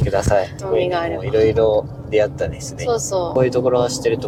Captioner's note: animals